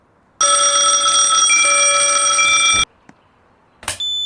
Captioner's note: Trouble Bell Noises